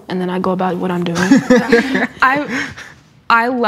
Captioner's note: laughs in unison